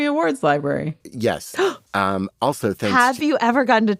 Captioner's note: gasps